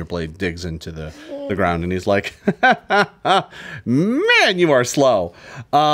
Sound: laughs

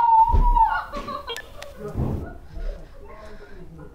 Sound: crying

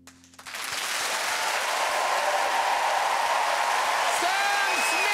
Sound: audience cheering

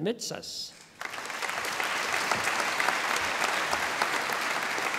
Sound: audience applauding

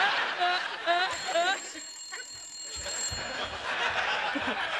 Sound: laughing; telephone ringing

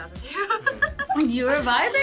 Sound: laughs

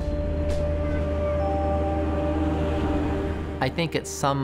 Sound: distant children playing, waves roaring

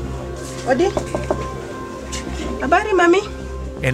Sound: woman #1: speaking African dialect

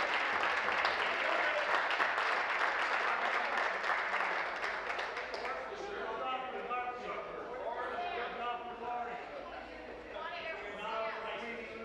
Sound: applause

